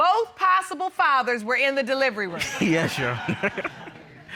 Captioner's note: laughs